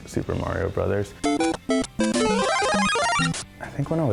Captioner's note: playful music; graphics warbling